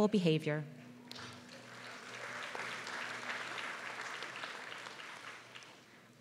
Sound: applause

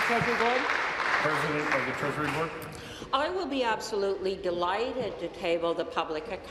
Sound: applause

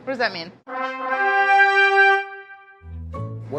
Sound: horns blaring; slow upbeat music

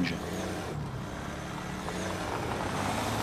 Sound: sound of car engine

